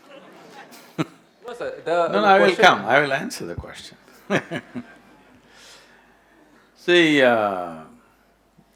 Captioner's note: laughs